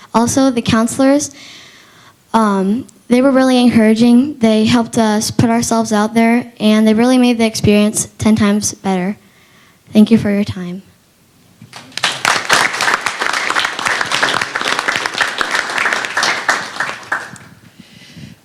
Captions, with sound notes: ALSO, THE COUNSELORS, UM, THEY WERE REALLY ENCOURAGING. THEY HELPED US PUT OURSELVES OUT THERE. AND THEY REALLY MADE THE EXPERIENCE TEN TIMES BETTER. THANK YOU FOR YOUR TIME. [ APPLAUSE ]